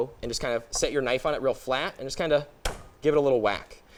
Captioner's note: pounding